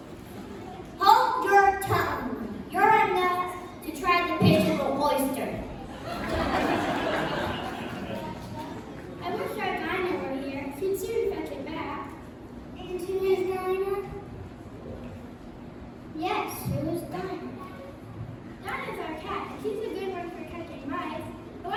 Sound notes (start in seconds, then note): 5.8 laughter